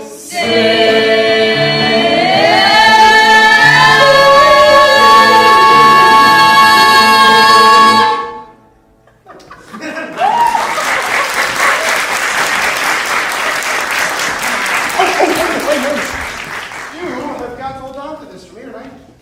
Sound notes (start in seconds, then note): 10.1 applause